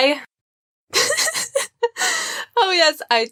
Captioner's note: embarrassed laughter